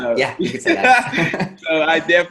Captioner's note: laughing